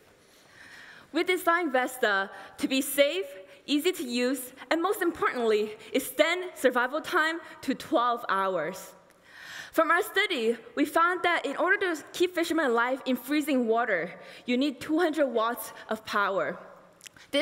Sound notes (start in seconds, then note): none